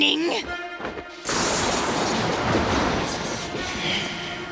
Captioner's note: thundering